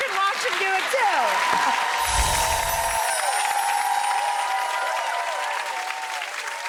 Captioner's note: crowd cheering